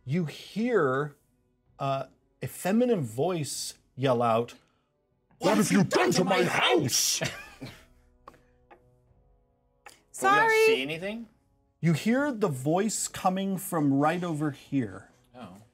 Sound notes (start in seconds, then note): 7.3 speaker chuckles